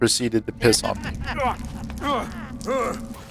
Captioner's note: man grunting